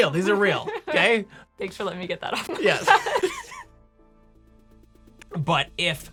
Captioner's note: laughing